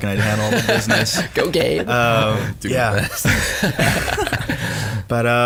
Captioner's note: all laugh